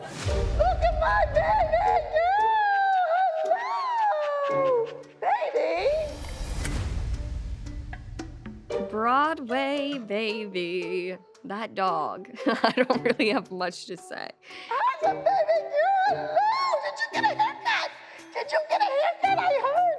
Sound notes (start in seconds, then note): 8.3 singsongy; 12.4 laughing